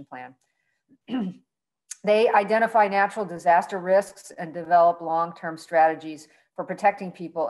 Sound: cough

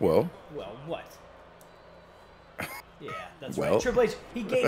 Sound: laugh

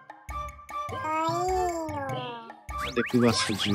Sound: monkey heartbeat

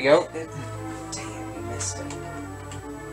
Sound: whispering

